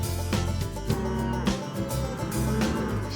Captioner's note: cattle mooing